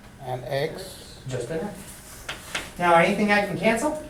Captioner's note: voiceover